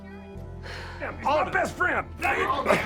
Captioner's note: sighs; all clamoring